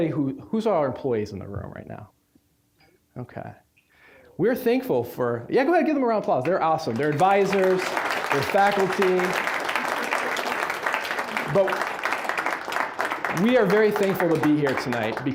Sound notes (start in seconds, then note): 9.3 applause